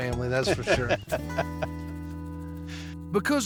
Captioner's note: laughter